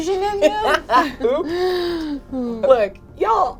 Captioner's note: laughs